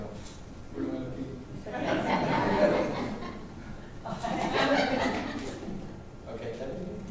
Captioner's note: audience laughing